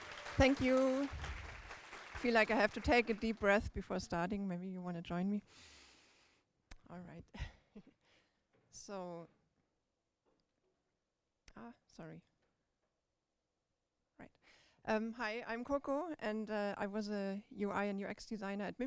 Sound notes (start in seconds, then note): 0.0 applause; 5.4 breathe